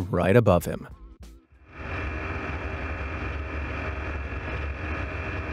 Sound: plane engine roaring

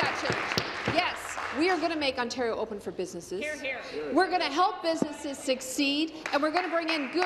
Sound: applause

